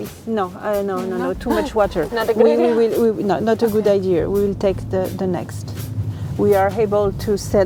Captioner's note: car continues